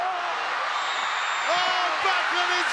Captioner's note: audience cheers